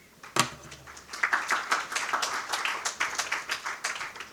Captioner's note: audience applauding